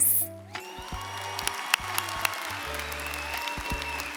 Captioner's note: audience applauds